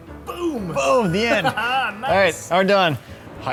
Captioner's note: laughter